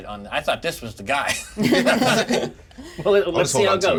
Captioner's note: laughter